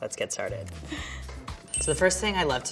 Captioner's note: countdown sound